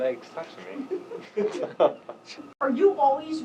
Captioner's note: laughing